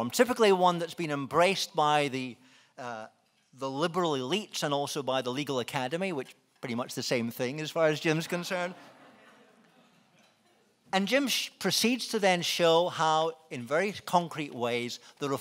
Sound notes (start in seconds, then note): 9.0 laughing